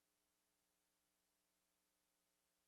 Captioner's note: none